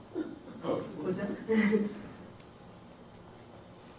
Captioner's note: audience chattering